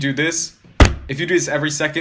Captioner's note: thunk